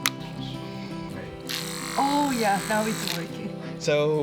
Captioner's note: whirring